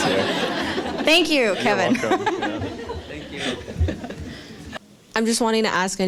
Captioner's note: laughter